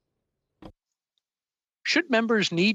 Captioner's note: speaking French